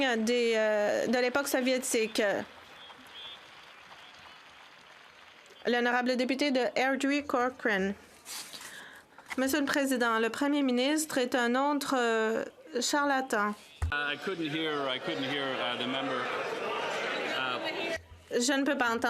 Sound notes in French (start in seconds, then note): 13.0 voix de l'interprète